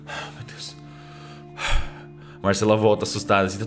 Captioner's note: sighs